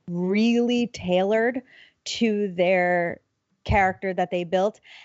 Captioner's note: none